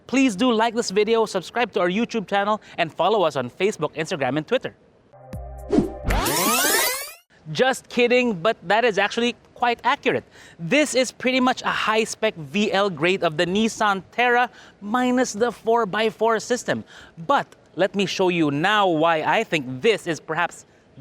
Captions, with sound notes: Please do like this video; subscribe to our YouTube channel, and follow us on Facebook, Instagram, and Twitter. [outro music] [rewind] "Just kidding!" But that is actually quite accurate. This is pretty much a high-spec VL grade of the Nissan Terra, minus the 4x4 system. But let me show you now why I think this is perhaps